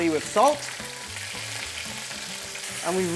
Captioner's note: sizzling sound